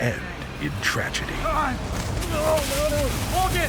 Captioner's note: yells